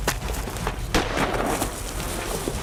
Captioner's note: gunshot